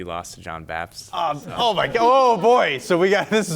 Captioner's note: contestants chuckling